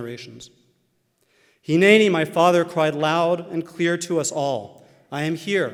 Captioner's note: Hebrew